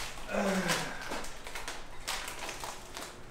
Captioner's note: sigh of accomplishment